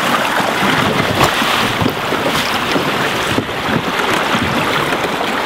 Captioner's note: water gushing